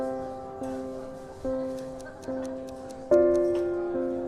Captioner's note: ticking